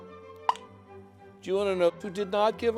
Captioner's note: popping